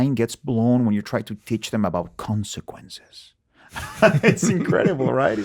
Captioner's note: laughs